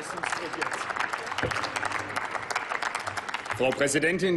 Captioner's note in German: Applaus